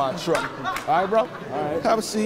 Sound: attendees laughing

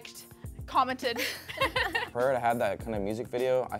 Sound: both laugh

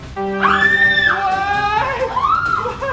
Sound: victory music; screaming

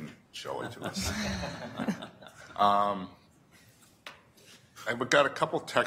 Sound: audience laughter

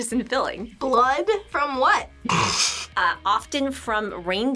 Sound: laughs

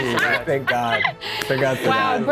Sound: laughing

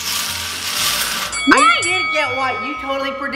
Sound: balls rattling; playful, melodic music; bell dinging

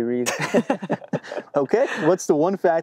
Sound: laughing

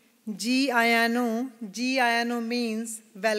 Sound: non-English phrase

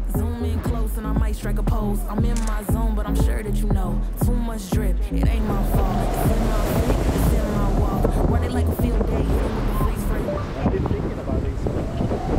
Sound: wind blowing in background

